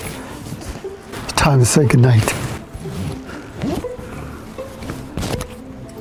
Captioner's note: labored breathing; playful quiet music; zipper buzzes